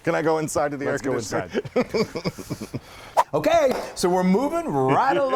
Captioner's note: laugh; laugh